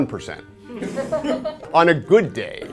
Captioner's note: laughter